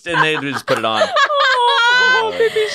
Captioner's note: laugh